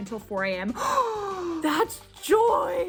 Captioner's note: gasping